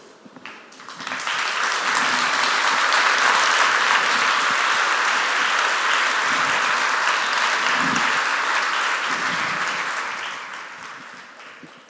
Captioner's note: applause